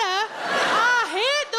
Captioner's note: audience laughing